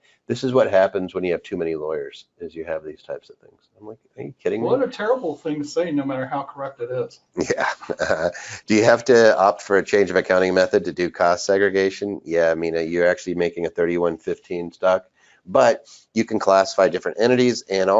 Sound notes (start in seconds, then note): 7.4 laughs